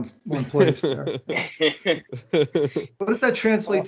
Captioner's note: laughter